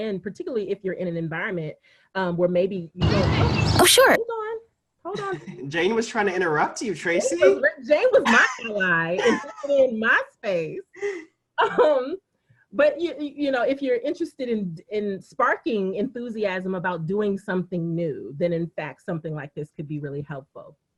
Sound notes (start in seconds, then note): 9.1 laughing